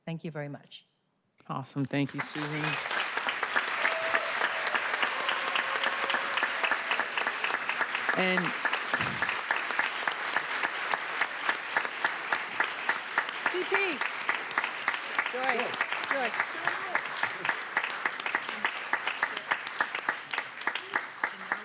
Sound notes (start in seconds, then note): 7.3 applause